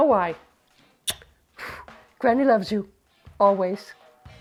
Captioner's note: blows kiss